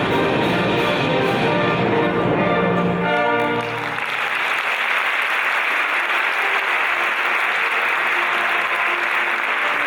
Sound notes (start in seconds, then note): 3.4 audience applauding